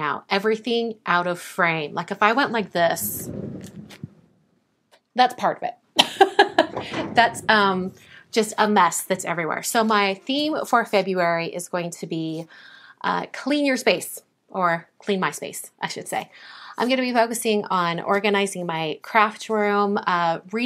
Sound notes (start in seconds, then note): 2.7 chair rolls; 6.0 laughs